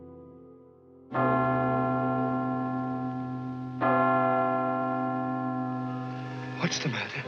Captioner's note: bell ringing slowly